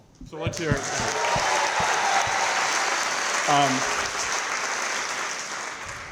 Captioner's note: crowd clapping & cheering